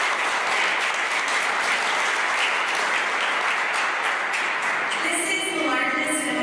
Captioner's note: applause